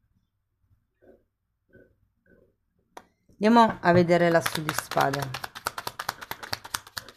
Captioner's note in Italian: Applauso